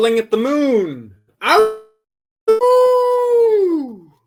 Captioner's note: howls